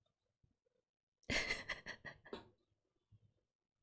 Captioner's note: laughs